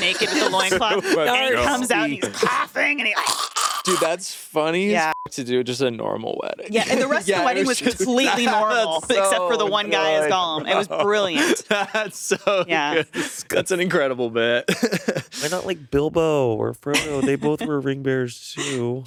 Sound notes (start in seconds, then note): 3.4 mimicking Gollum's couhj; 5.1 beeping